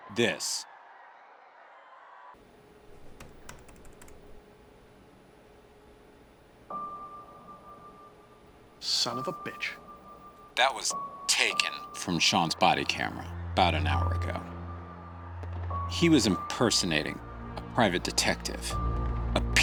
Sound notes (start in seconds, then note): 2.6 keyboard keys clacking; 7.1 gentle music